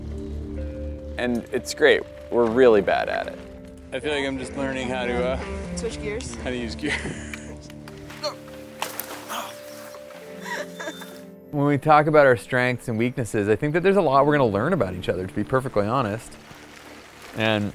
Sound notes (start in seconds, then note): 8.3 grunts; 10.2 laughs